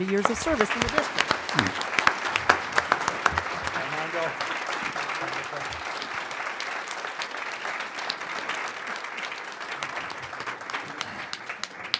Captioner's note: applause